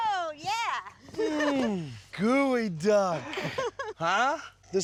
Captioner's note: laughing